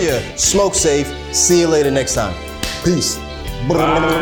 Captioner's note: claps